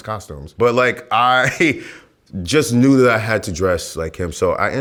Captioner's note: laughs